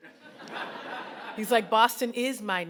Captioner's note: audience laughing